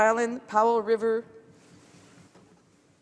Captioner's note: speaking French